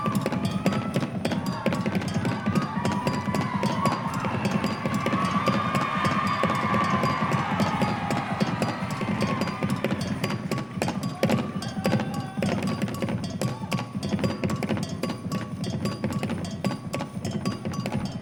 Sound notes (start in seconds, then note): 7.2 audience cheering